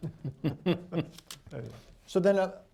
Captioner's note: laughter